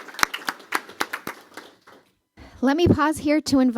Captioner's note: applause